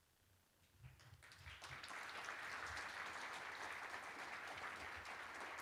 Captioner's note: applause